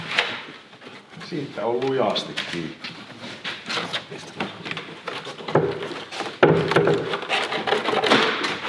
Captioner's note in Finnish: koputusta